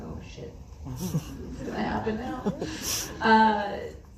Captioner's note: laughs